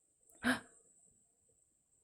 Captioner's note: gasps